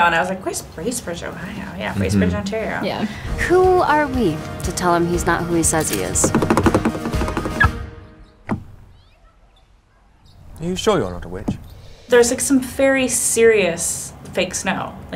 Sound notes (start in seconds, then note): 6.2 car handle knocking; 6.4 car beeps